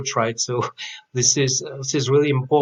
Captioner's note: chuckles